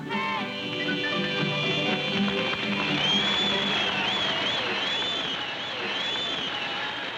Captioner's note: song ends and crowd cheers and applauds